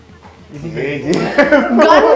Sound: sarcastically

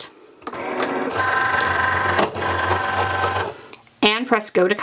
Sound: machine whirring

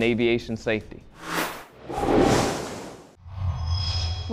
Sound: sound Effects

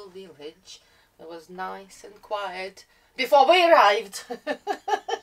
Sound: laughs

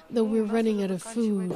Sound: speaking Foreign Language

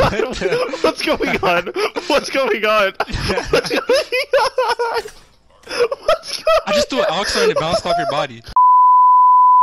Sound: nonsensical banter and laughter

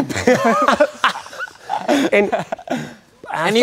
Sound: both laughing

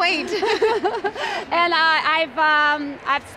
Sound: laughs

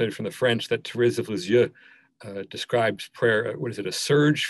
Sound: speaking in foreign language

